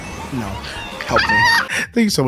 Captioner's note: toad crying